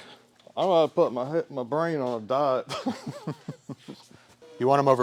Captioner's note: chuckling